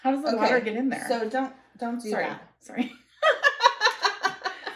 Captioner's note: laughter